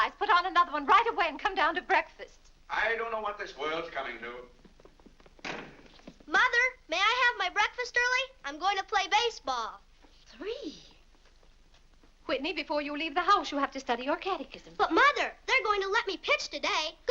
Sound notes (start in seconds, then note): 4.5 feet pattering down stairs; 5.4 door slams